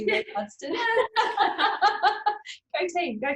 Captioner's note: both laughing